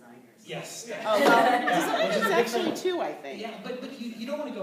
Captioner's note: laughter